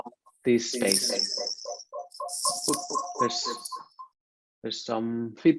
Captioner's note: microphone echoes